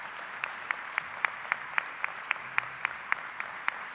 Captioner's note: applause